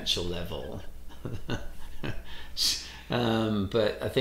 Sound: chuckles

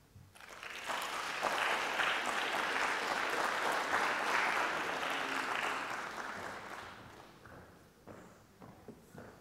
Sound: applause

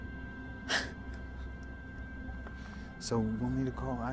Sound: Jeanette scoffs

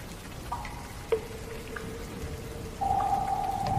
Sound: water drips

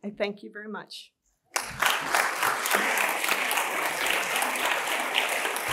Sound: applause

